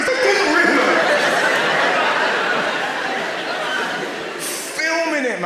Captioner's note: audience laughs